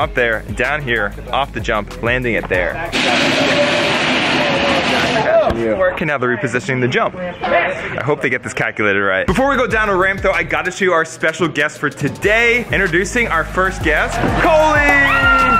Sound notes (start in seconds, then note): 3.0 ramp scraping; 4.8 workers chattering; 14.8 screaming